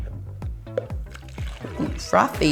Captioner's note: liquid pouring